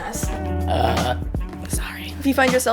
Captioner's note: loud burp; whisper